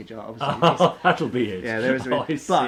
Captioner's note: laughs